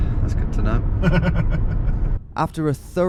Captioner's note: laughing